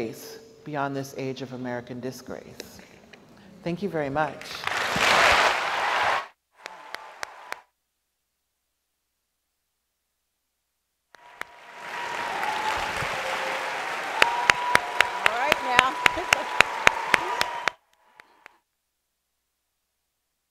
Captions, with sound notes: beyond this age of American disgrace. Thank you very much. (audience applauds)